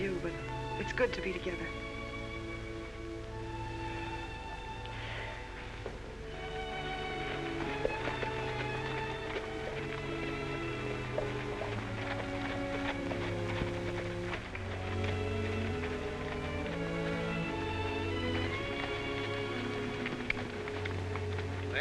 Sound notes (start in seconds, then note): 2.3 calm, happy music; 8.8 hooves trotting